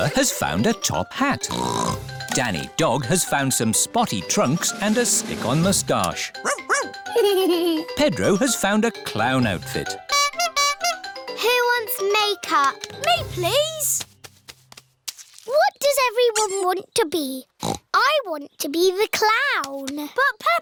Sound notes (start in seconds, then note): 1.4 snorts; 6.5 giggles; 9.8 toots horn; 17.6 snorts